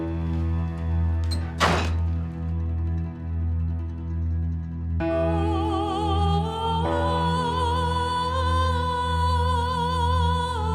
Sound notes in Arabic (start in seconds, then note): 1.1 يغلق الباب; 6.6 تستمر الموسيقى الدرامية